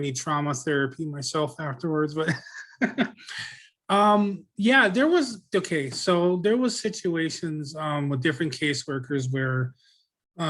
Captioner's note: laughs